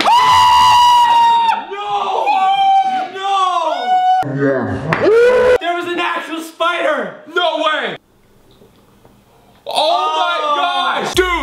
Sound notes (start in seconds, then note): 2.6 continued screaming; 5.0 slow motion scream